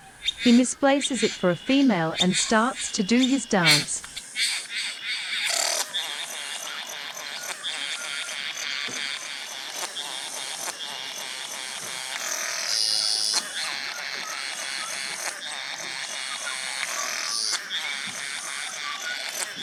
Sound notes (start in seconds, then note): 4.3 birds sounds and display calls